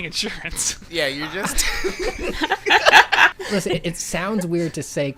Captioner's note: laughter